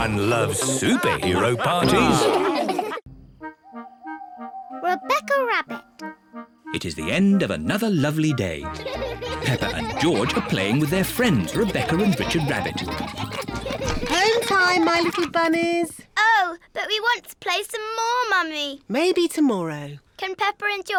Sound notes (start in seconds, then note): 3.1 all laugh; 3.6 oinks